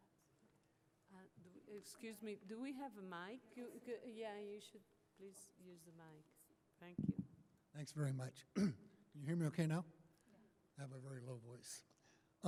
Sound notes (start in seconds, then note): 7.6 voiceover; 8.5 clears throat